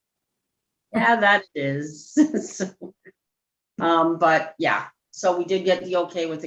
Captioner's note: laughs